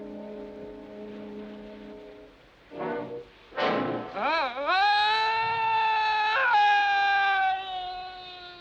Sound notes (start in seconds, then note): 4.2 Paul screaming